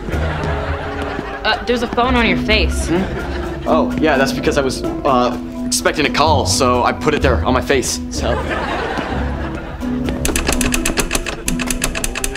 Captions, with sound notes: [laughing] - Er, there's a phone on your face. - Hmm? Oh, yeah, that's because I was er... expecting a call. So, I put it there on my face, so... [laughing] [tapping button]